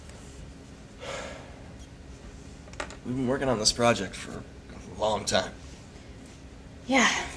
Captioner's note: sighs